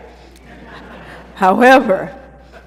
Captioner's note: laughter